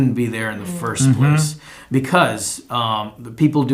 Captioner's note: exclaim in agreement